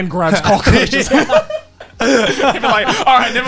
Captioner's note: men laugh